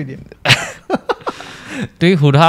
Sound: laughs

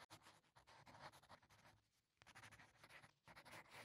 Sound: soft scratching

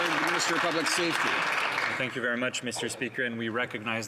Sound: applause

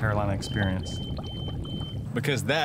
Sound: alarm beeping

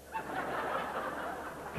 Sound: laughter

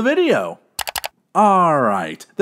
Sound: double click

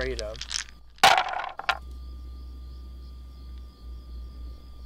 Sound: dice thumping

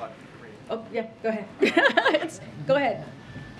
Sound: laughs

